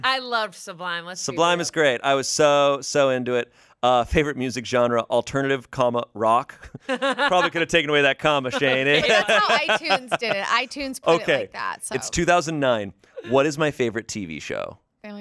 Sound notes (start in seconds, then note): 8.4 laughs